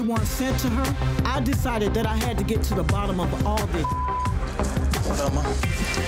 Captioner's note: beep